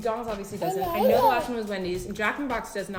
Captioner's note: baby gibberish